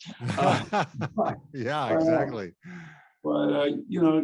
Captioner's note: laughs